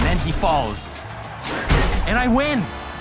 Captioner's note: crowd cheering, applauding